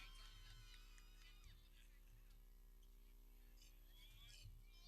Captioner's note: people cheering